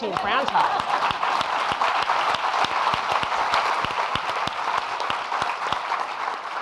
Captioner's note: audience laughing and applauding